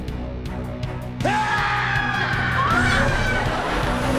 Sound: screaming

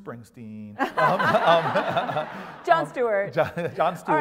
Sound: laugh

